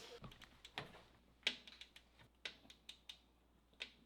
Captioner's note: clicking